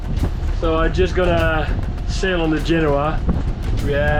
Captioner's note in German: murmelt